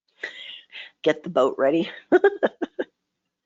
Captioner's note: laughs